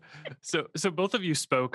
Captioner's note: all laugh